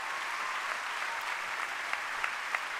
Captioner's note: applause